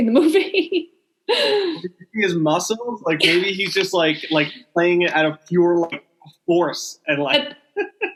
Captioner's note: laughing